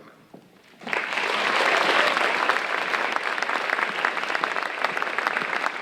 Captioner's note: audience cheering and applauding